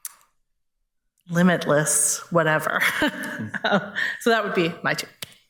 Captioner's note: laughs